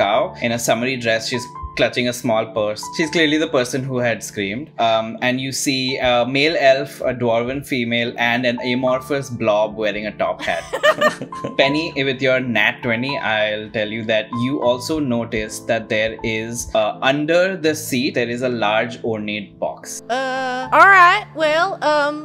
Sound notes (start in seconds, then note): 10.4 laughter